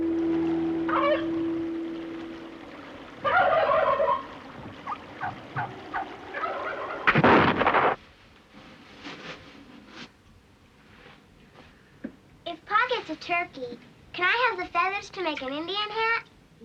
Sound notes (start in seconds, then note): 0.8 turkey gobbling; 4.7 jack barking